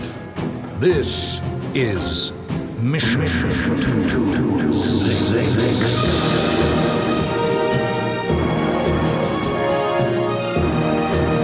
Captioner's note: echoing